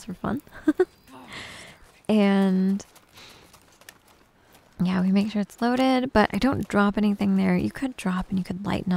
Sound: giggles

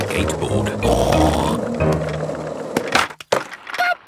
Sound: snorts

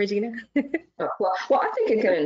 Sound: laughs

